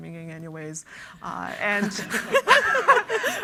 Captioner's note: everyone laughs